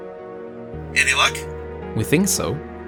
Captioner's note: radio voice